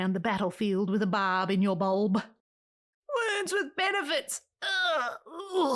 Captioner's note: arggh